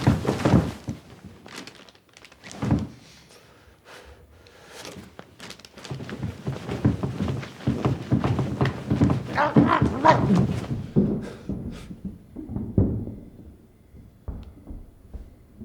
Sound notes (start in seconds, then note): 8.9 Ulysses groaning; 11.7 furniture banging